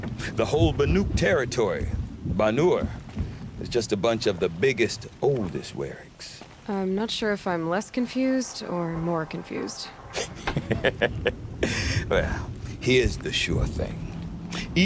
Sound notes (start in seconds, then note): 10.0 laughs